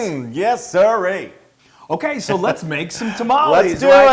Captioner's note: laugh